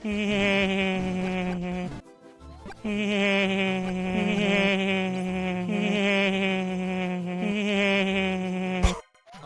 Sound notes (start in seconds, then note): 0.1 Luigi lightly chuckles as he is safe from the giant Mario; 2.9 he chuckles further from the safety of his tiny area